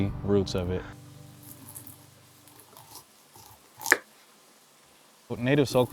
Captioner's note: sounds of corn being cut